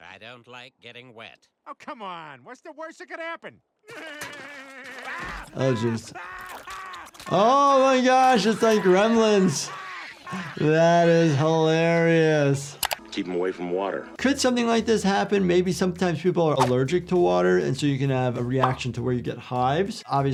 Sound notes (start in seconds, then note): 3.8 Peter laughs; 3.9 Cleveland screaming